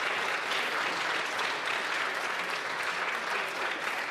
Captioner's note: applause